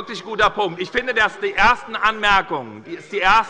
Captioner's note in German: Allgemeine Unruhe - Glockenzeichen der Präsidentin